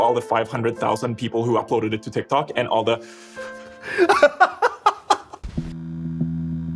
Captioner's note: laughs